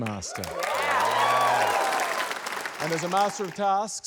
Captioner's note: cheering, applause